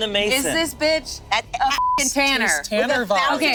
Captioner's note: beep